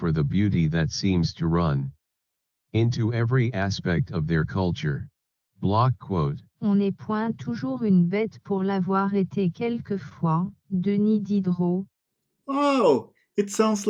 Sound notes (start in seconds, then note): 8.8 the speech synthesiser speaks in French